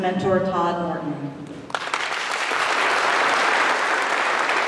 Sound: applause

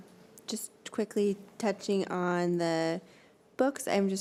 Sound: none

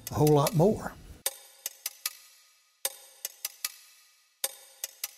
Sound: rhythmic tapping

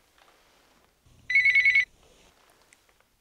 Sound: phone rings

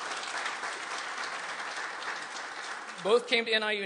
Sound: applause

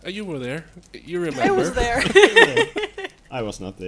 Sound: laugh

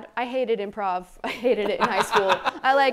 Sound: laughs

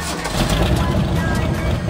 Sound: engine starts

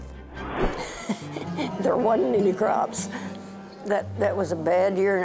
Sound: laughing

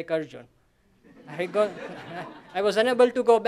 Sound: laughter

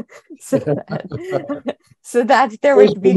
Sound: chuckles; chuckling

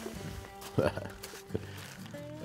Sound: chuckles

